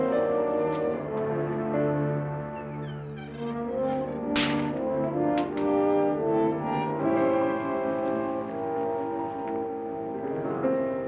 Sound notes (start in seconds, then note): 0.1 ominous dramatic music; 4.2 gate bangs shut; 6.2 ominous dramatic music